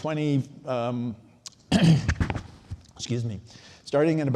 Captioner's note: clears throat